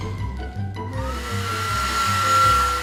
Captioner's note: hair dryer whirring